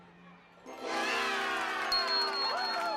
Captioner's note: cheers and applause